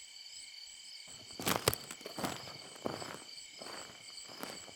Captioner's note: footsteps crunching